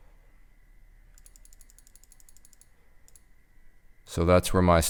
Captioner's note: clicking